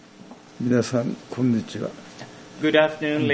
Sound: speaking in foreign language

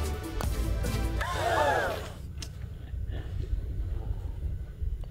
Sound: crowd gasps

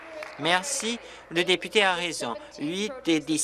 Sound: applause

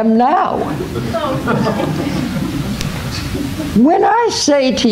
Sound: laughter

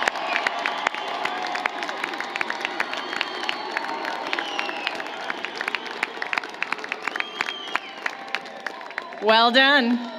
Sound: applause, Cheering

